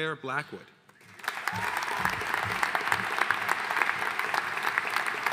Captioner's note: audience applauding